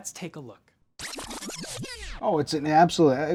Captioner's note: tape rewinding